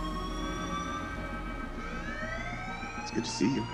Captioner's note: alarm continues